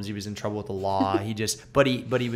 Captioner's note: laughter